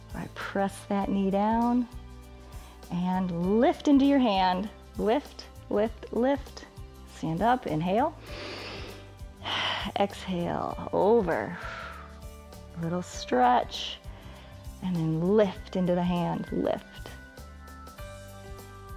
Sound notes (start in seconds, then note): 8.2 inhales; 11.6 exhales